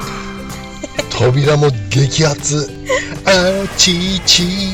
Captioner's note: laughs